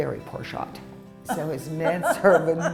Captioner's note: laughter